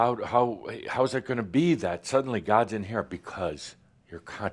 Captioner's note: none